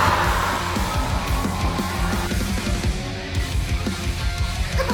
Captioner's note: clown makes weird noise